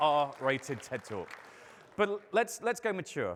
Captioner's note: audience applauding